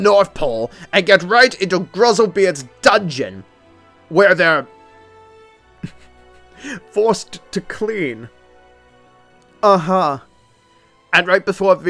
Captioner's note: stiffled chuckle